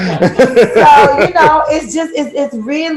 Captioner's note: laughter